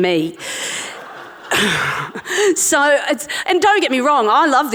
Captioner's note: audience laughing